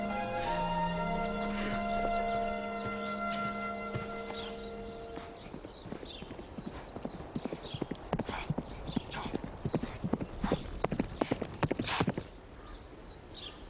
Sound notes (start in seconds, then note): 4.6 horse galloping; 7.1 birds chirping